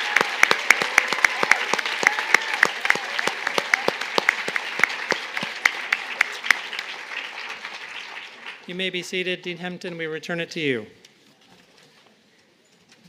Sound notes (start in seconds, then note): 1.5 cheers and applause